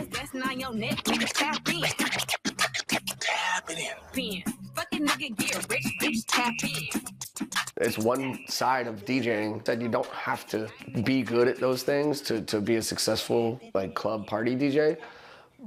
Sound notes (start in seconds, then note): 0.1 record scratching